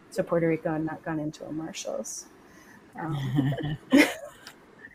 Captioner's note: laughs